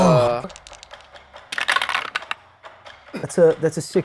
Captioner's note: dice rattling